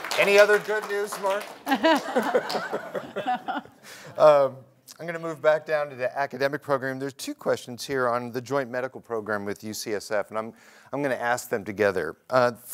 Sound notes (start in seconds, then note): 1.6 laughter